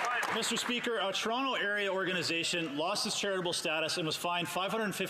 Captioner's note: some Applause